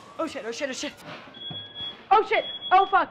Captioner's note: smoke detector starts beeping